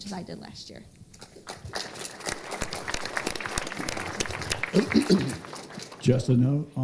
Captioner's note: applause